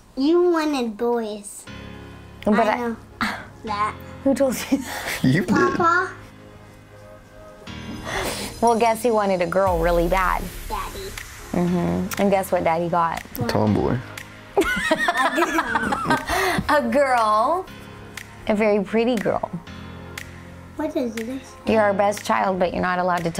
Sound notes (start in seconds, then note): 14.7 laughs